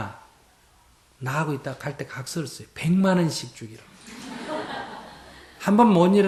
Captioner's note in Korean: 청중 웃음